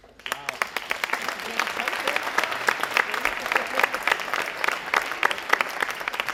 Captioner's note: audience applauding